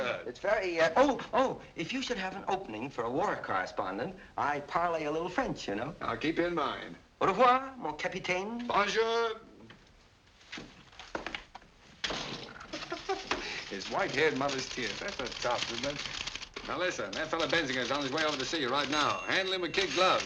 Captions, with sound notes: Oh! If you should have an opening for a war correspondent, I parler a little French. -I'll keep you in mind. -Au revoir, mon capitaine. Bonjour. (laughs) "His white-haired mother's tears." That's the stuff, isn't it? Listen, Bensinger is on his way to see you. Handle him with kid gloves.